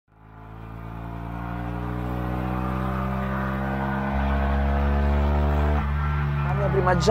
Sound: 126 GPA 800 revving

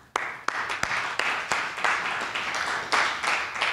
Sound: applause

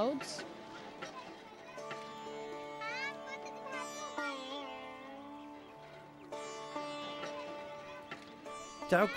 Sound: kids chattering

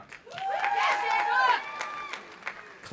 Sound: cheering

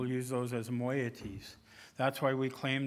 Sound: speaking indigenous language

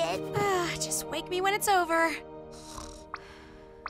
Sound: snoring

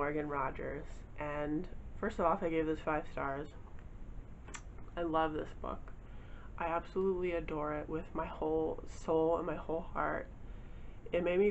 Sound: kissing noise

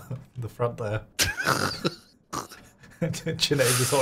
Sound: laughing

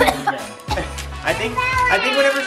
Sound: coughing

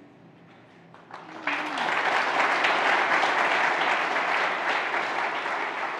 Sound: audience applauding

